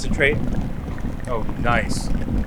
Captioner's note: gravy bubbles